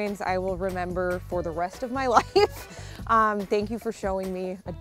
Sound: laughs

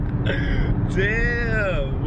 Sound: laughs

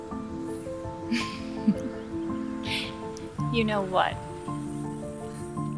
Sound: light piano music; giggles; light piano music

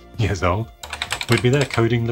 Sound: keypad tapping

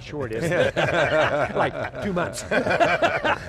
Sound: all laughing

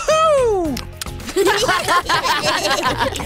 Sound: laughs

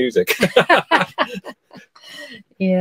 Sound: laughter

